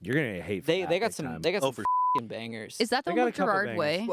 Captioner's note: beep